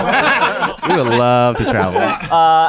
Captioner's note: laughing